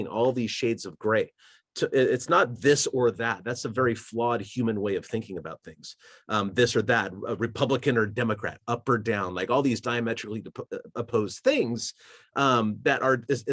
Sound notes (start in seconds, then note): none